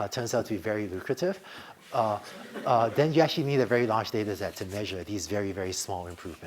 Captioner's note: laughter